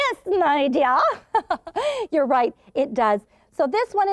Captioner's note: laughs